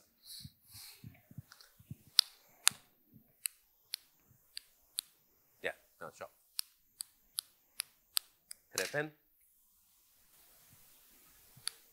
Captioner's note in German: Klicken